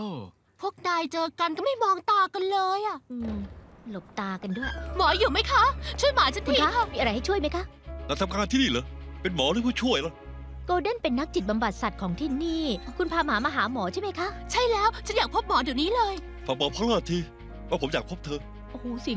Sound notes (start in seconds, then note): 4.4 door opening